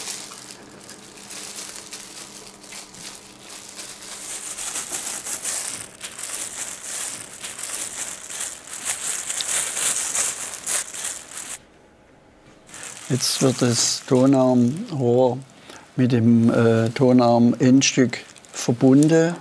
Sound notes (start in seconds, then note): 4.1 crackling